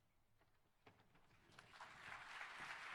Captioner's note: applause